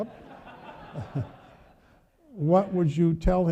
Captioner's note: audience laughing